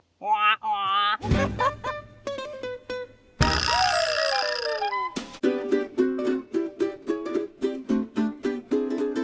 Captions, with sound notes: Wahp, wahp! [LAUGHTER]